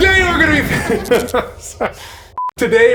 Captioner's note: laughs